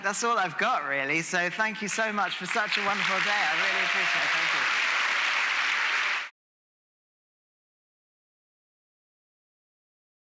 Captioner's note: applause